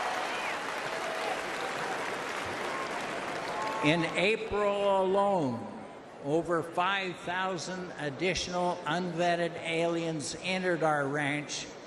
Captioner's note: applause